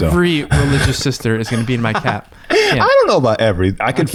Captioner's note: laughs